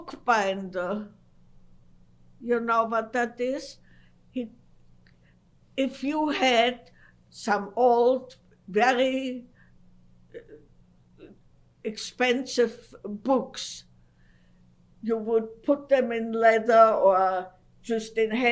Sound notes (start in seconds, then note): 0.0 pauses for 3 seconds; 8.4 pauses for 3 seconds